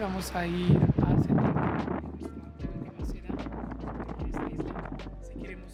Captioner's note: wind